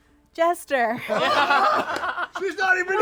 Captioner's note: laughter